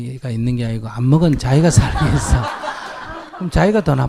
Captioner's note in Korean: 청중 웃음